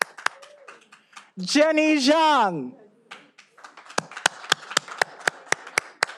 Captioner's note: all applauding